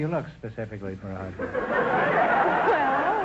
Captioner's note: audience laughter